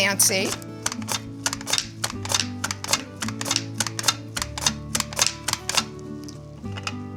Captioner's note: mandolin clicking; cucumber swooshing